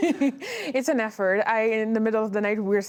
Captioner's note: laughter